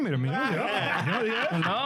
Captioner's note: laughing